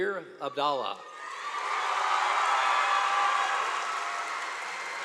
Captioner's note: crowd cheering